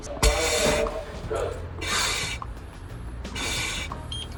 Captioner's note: air whooshing